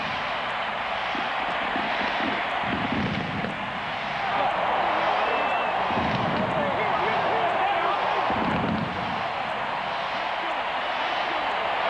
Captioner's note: cheering; fireworks